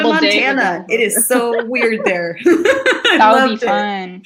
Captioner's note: laughs